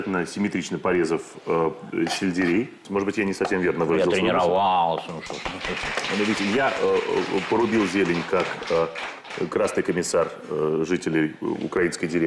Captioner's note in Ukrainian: оплески